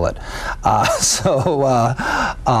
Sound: laughing

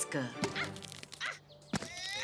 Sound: Lenny the Lightning Bug grunting

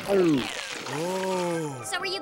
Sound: sighs

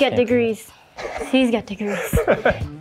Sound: laughs

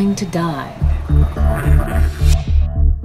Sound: queefing noise

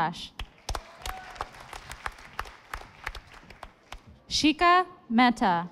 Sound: audience applauding

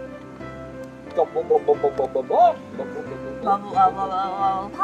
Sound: mimics gas pumping

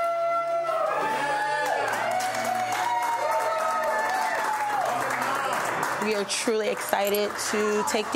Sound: group applauding; cheering and applauding

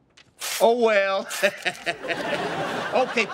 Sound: laughing

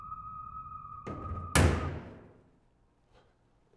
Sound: thud

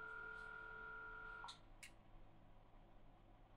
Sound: click

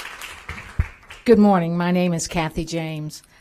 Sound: applause

